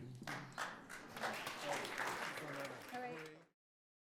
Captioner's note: everyone applauds